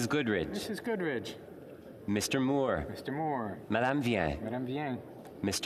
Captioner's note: speaking French